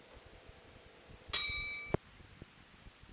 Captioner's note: bell Sound